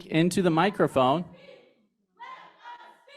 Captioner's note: chanting